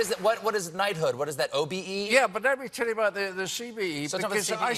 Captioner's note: cheering